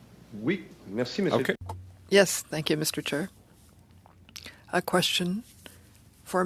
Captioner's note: speaking French